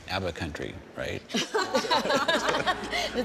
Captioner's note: laughs